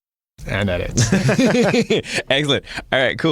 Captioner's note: laughing